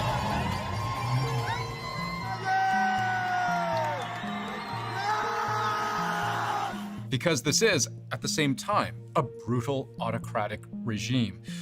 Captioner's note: cheers and Applause